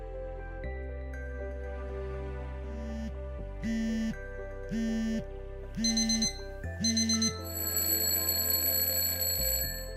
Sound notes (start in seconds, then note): 4.7 phone vibrates; 6.7 alarms rings